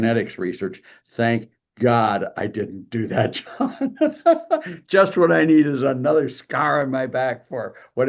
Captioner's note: laugh